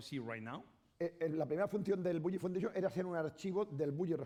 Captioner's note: speaking spanish